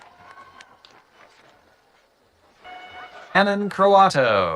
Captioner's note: audience cheering